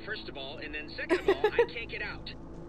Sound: laughter

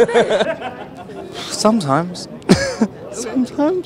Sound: laughs; chuckles

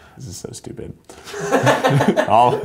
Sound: laughs

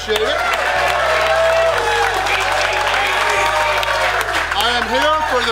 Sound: crowd applauding; crowd cheering

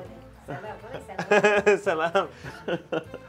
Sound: speaking Persian

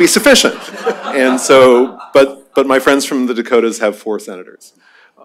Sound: laughter

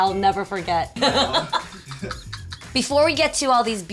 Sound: laughing

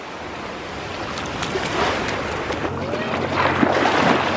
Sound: water splashing

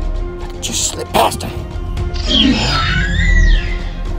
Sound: velociraptor screeching

